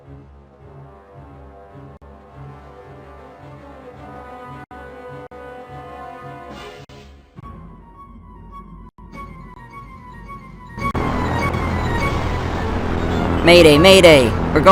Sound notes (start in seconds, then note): 10.3 plane Falling